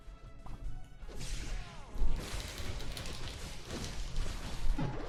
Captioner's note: fighting sounds